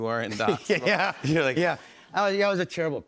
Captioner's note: laughs